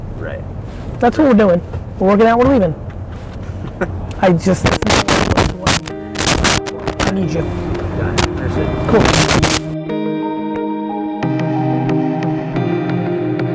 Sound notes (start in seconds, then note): 3.1 laughing; 9.6 mellow music